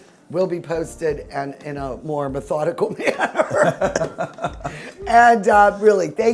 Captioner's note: laughs